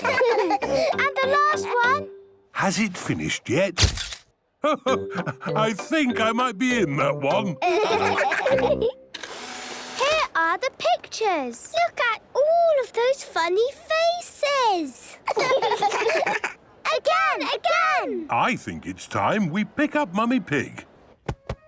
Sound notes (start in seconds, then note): 0.0 all laughing; 3.8 camera clicks; 9.2 whirring; 15.1 children laughing